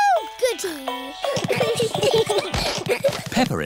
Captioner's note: all giggling